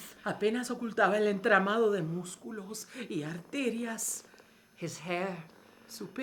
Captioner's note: speaking in foreign language